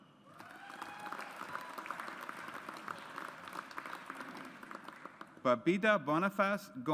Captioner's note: audience applauds